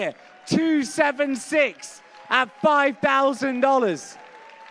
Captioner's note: applause